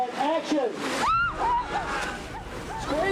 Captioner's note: all screaming